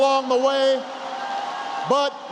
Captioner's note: applause